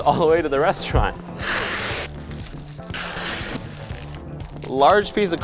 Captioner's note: tearing and crinkling